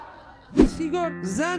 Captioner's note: laughter